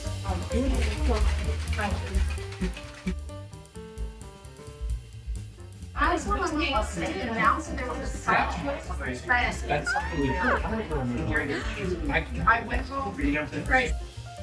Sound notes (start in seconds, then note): 0.0 ice shaking; 9.6 sqealing in whimsical delight